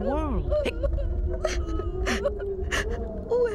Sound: sobbing

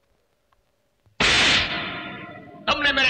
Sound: slapping

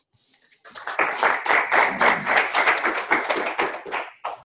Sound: clapping

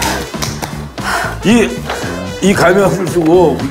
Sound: sighing

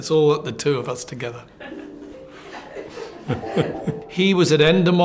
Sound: laughs

